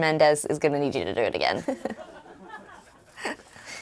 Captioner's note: laughter